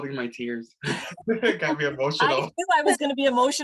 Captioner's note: laughter